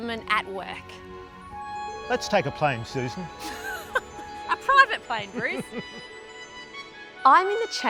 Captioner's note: laughing